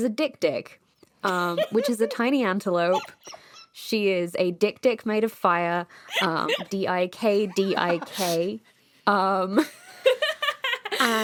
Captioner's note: laughter; laughter